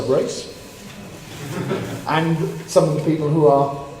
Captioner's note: laugh